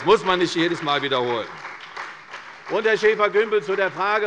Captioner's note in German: Beifall bei der CDU und dem BÜNDNIS 90/DIE GRÜNEN